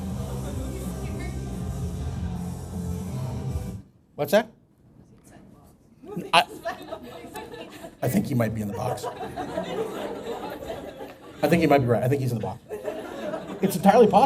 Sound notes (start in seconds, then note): 12.2 laughter